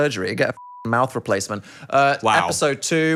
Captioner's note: beep